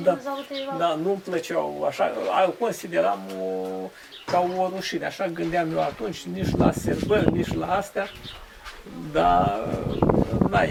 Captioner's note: reciting poems